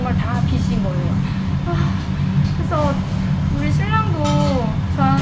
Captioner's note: sighs